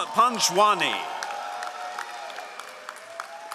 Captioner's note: all applauding